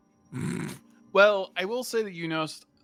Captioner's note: chortle